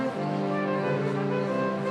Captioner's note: none